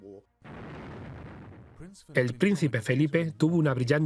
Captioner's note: voiceover